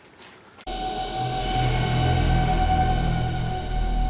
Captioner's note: strange sci fi sound